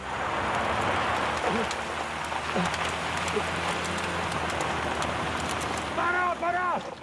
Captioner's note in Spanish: Sonido al acelerar